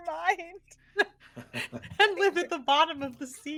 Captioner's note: everyone laughs